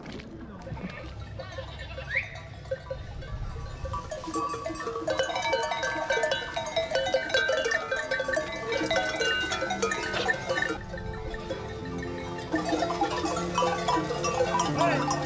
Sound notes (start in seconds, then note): 1.5 bells clanging; 12.4 serene music